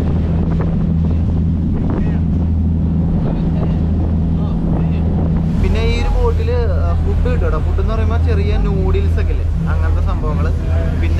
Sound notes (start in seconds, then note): 5.5 windy sound as the boat moves